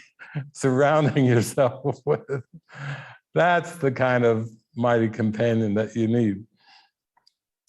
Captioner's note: laugh